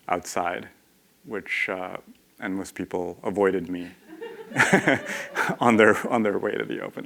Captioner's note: laughter